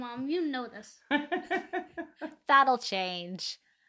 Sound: laughing

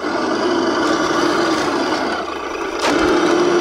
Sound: truck revving

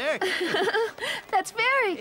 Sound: chuckling

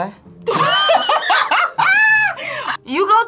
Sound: both laugh

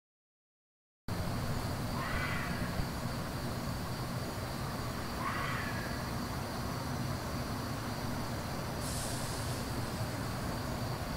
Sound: noise of the night ambience

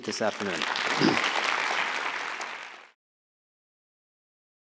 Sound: audience applauds

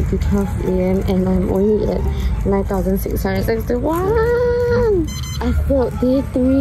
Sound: steps

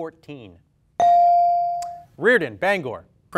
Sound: ding

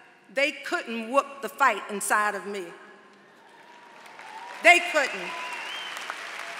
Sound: applause

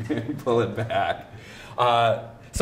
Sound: chuckles

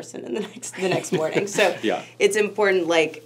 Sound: laughs

